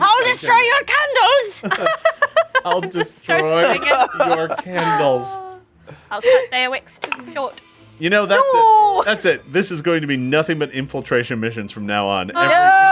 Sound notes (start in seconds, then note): 1.6 group laughs